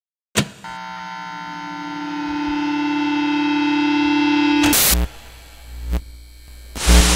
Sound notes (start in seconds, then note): 0.7 radio waves buzzing